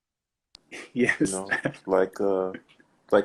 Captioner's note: laughs